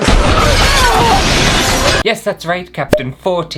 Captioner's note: explosion!!